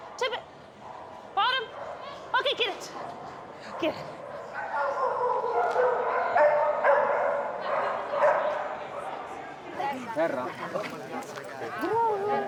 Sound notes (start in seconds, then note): 4.5 dogs barking